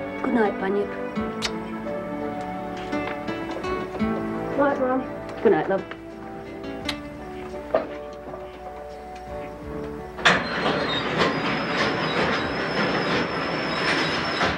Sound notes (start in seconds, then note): 1.3 smooches; 3.0 gentle music; 10.5 lift rattling